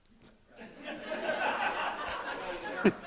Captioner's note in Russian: Смех